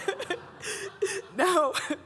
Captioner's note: everybody laughing